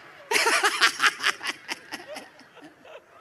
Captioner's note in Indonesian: tertawa